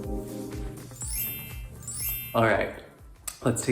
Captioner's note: chimes ringing